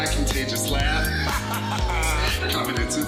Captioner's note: singing; contagious laugh; singing